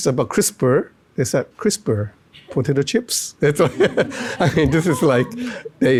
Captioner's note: laughs